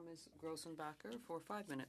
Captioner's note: speaking French